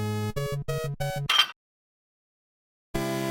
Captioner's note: clank